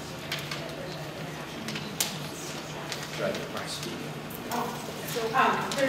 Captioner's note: background talking